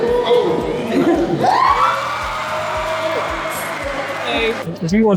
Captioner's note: applause